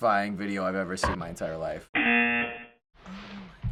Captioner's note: buzzer